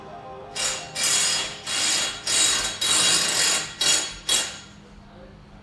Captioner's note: construction sounds